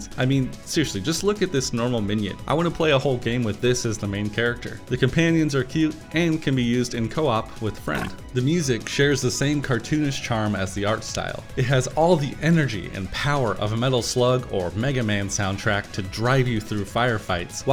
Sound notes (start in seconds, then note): 7.9 squirt